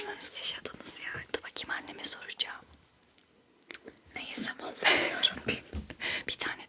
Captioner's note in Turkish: kahkaha